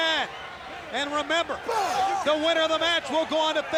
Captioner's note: blows thudding